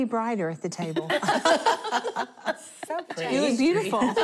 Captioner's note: laughter